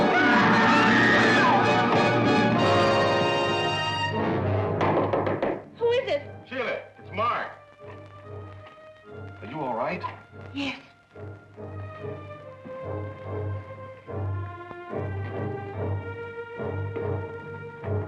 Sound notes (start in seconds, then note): 0.0 Jonah screaming; 0.1 Sheila screaming; 4.7 door knocking; 13.1 dramatic music